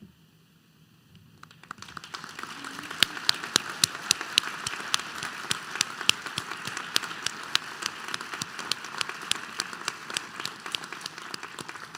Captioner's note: applause